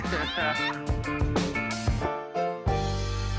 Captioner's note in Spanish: Risas